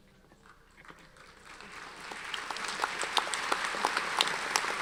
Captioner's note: audience applauds